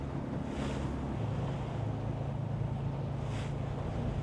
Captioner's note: waves crash softly